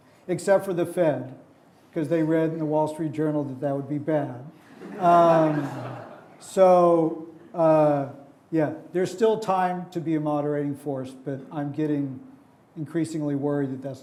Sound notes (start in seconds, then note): 4.7 audience laughing